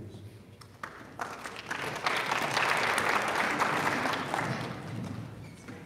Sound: audience applauding

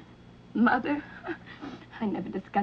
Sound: scoffs

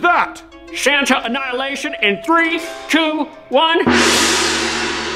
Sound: gong

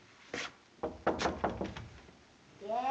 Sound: knocking on door

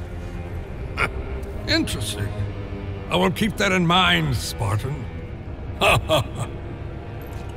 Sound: laughs

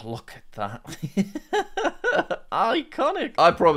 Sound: laughs

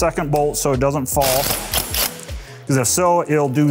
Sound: driver whirring

